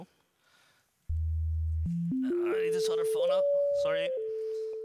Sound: tone distorts as reaches down for phone

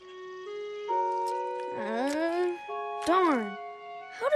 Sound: groan

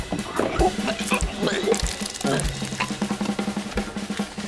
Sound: lively drum solo; puking; lively drum solo

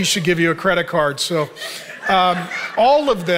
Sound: audience laughing

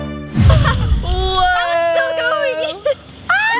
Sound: laughs

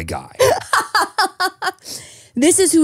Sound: laughing

